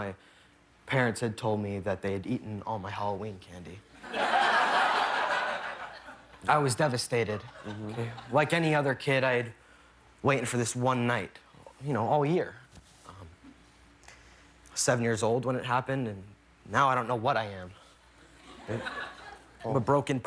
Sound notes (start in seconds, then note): 4.0 laughter